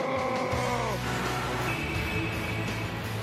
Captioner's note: growls